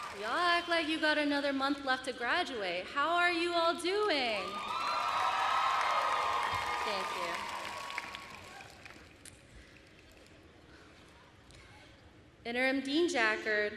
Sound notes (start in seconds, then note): 4.3 applause and cheers